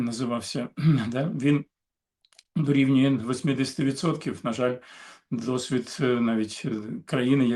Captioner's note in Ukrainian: прочищення горла